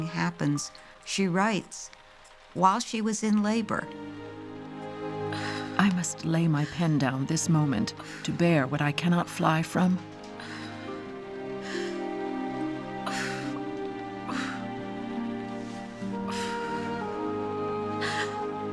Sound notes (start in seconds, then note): 11.8 moaning